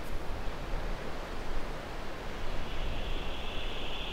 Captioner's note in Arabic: يستمر زقزقة الحشرات